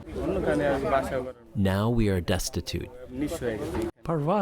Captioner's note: through translator